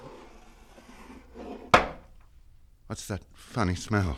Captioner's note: gasps